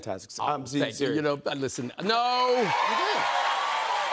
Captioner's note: cheers and applause